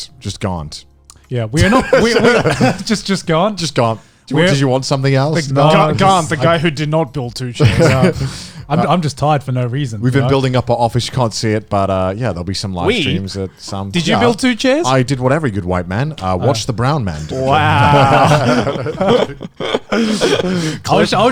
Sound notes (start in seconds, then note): 1.6 all laugh; 17.2 all laugh